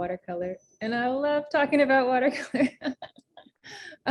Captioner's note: laughs